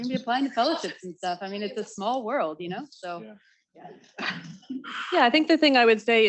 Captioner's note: chuckles